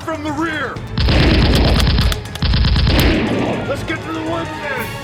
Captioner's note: gunfire rattling